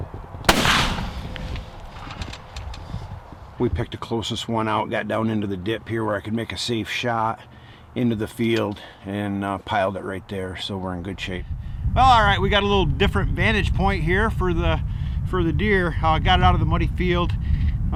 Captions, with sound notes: (gun firing) We picked the closest one out, got down into the dip here where I can make a safe shot into the field, and piled it that right there, so we're in good shape. Well, all right. We got a little different vantage point here for the, for the deer, now I got it out of the muddy field.